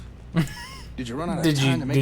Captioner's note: laughing